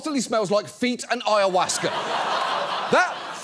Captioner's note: audience laughs